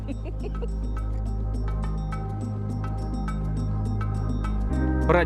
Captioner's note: giggles